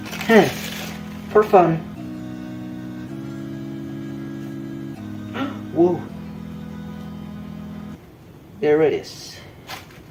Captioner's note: epically gasps